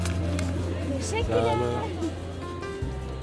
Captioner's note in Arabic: بالتركية